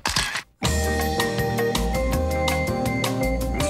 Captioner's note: camera clicks